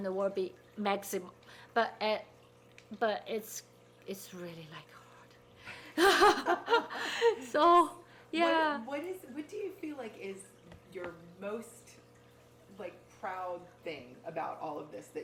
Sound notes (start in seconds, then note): 5.9 people laughing